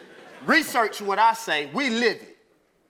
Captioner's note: laugh